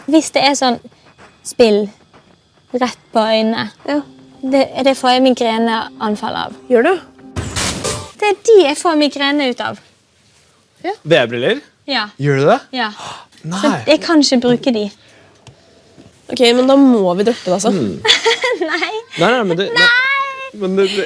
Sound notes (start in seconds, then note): 12.7 gasps; 18.0 giggles